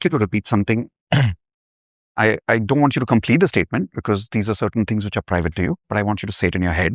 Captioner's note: clears throat